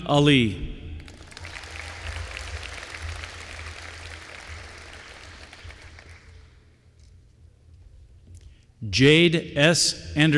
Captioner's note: applause